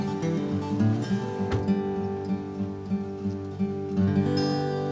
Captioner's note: light guitar music; car door closes